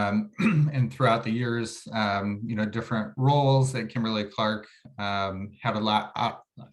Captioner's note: cough